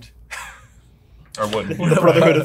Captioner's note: laughs